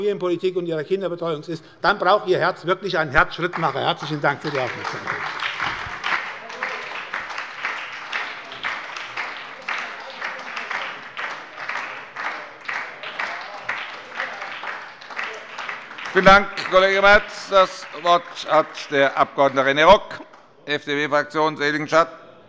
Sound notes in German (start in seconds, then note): 5.1 Beifall bei der SPD